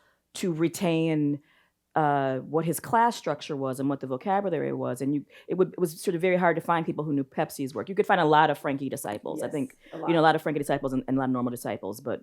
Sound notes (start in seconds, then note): none